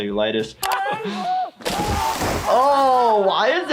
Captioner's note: Bam screams